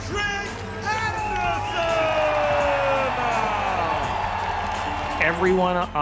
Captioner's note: crowd cheering